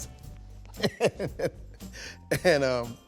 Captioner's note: laughs